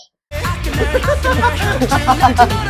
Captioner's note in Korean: 꺄르르 꺄르르